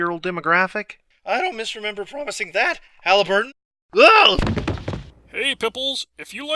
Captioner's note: thud